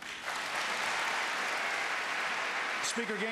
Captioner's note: applause